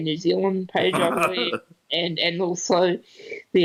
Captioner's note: laughs